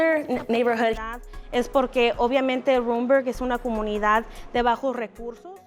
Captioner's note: speaking Spanish